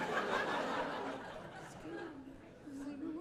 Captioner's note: audience laughing